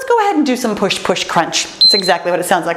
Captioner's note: timer beeps